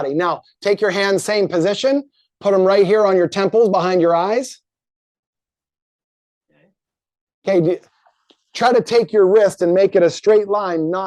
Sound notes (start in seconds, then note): none